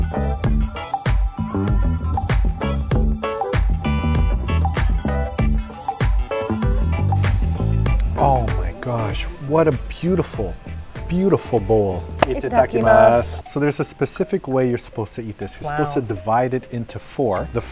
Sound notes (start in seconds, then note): 12.4 speaking in foreign language